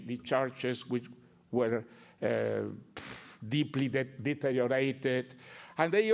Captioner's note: blows breath